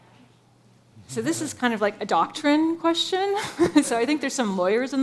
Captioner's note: laughs